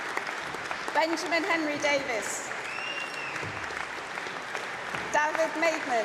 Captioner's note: applause